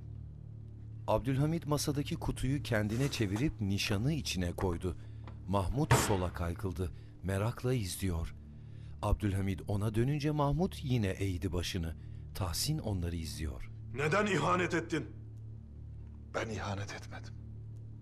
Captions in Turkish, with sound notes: (Kapak kapanma sesi) (Müzik - Gerilim) -Neden ihanet etin? -Ben ihanet etmedim.